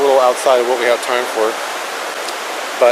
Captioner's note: water rushing